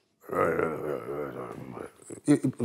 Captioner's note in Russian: ворчит про себя